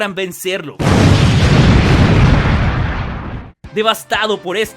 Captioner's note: explosion